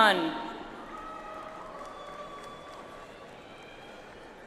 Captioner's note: audience applauds